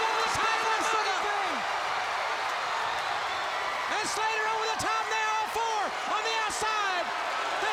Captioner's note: crowd cheering